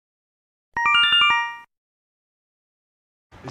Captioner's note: Yume Nikki Instructions sound effect